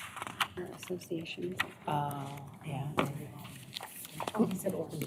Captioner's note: indistinct chatter